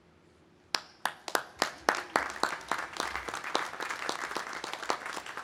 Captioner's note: audience applauding